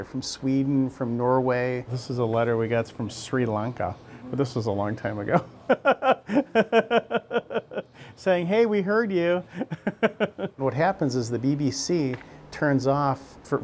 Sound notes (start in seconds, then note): 5.6 laughing